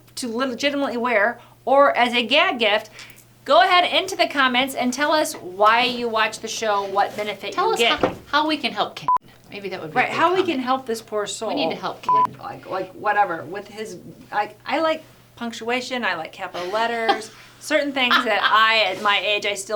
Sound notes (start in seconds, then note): 9.2 beep; 12.0 beep; 18.0 laughing